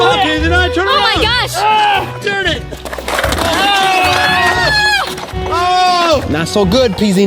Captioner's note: screaming